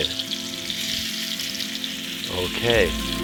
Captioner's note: pan sizzling